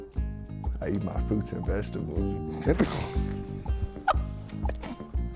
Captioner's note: laughs